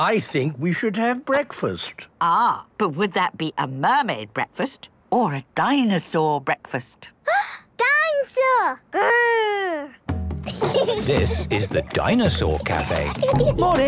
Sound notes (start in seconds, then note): 7.5 gasps; 10.4 children giggling